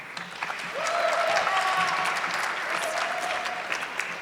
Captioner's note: audience clapping